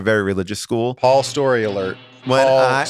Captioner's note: alarm blares